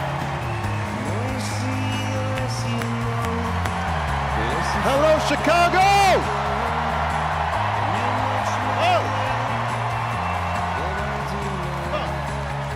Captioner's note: cheers and applause